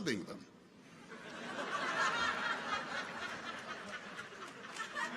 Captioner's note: people laugh